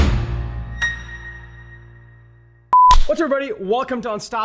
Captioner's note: screen beeps